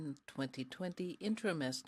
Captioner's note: speaking french